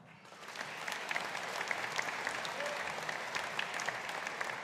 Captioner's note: audience applauding